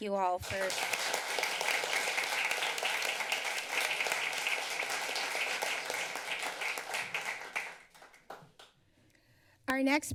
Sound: applause

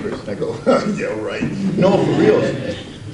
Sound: laughs

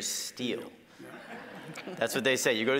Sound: audience laughing

